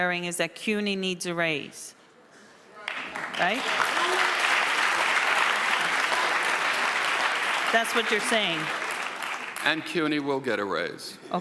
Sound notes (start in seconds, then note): 2.8 audience applauds; 3.6 some audience members murmur